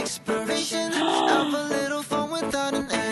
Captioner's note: gasp